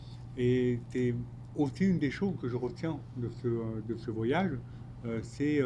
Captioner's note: speaking French